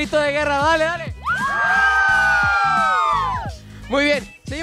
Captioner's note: all shout